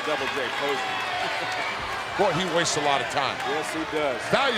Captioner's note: laugh